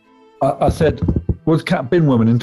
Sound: knocking

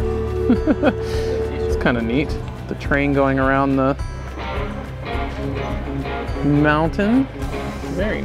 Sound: laughs

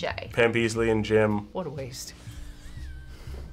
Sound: chuckles

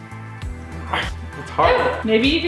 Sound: grunts

